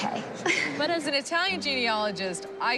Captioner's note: chuckles